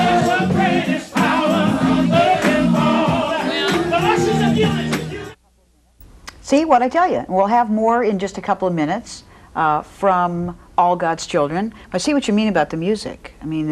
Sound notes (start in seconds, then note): 3.4 choir clap; 4.2 minister speaks faintly